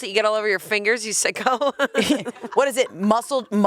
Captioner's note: laughs